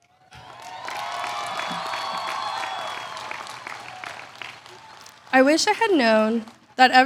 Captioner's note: applause